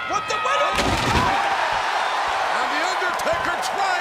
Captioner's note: crowd cheering; table breaking